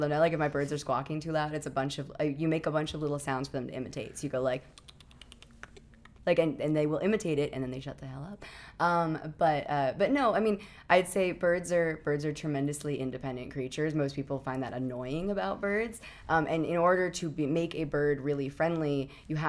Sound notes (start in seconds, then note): 5.2 clicking sounds